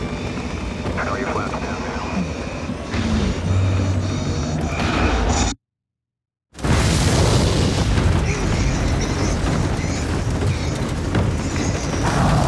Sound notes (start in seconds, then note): 2.0 heavy breathing; 6.7 Neil grunts